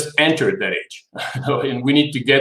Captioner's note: laughs